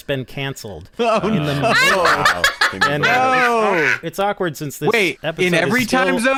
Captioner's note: hysterical laughter